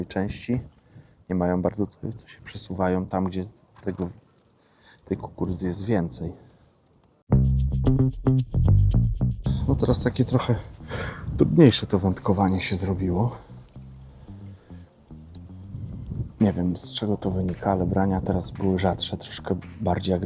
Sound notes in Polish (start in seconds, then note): 11.5 parsknięcie